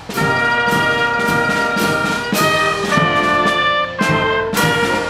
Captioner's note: none